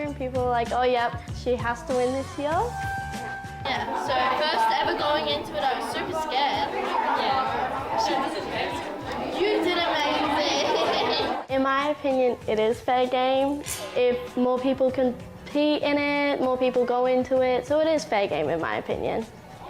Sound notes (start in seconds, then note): 10.8 laughs